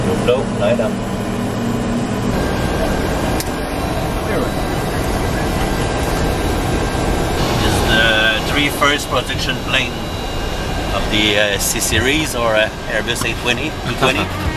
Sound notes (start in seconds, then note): 1.7 engine roaring